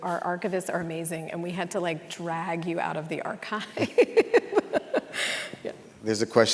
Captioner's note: laughing